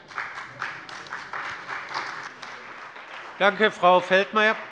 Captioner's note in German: Beifall bei dem BÜNDNIS 90/DIE GRÜNEN und der CDU